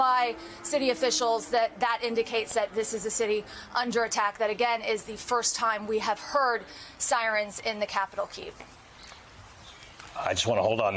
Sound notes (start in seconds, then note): 3.3 sirens